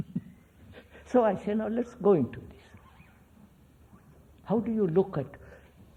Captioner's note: laughs